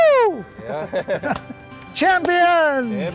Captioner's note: laughter